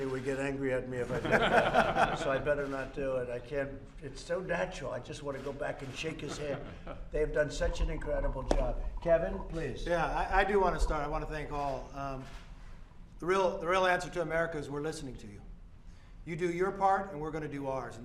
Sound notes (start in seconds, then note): 1.0 laughter